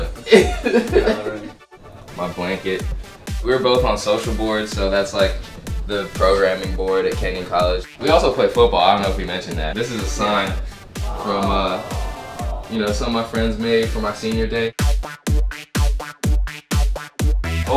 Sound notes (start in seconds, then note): 0.1 both laughing; 11.0 audience reacting; 15.0 upbeat music